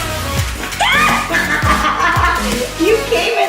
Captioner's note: shrieking and laughing